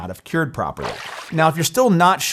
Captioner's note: water splashing